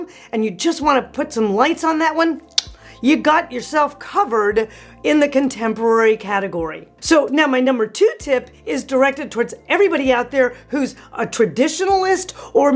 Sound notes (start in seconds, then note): 2.5 clicks tongue